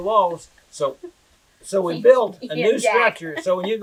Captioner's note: laughs